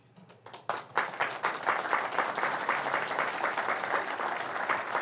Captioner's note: audience clapping